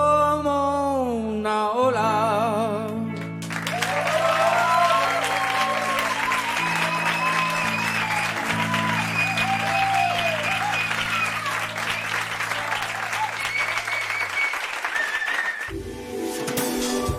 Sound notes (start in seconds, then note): 4.1 applause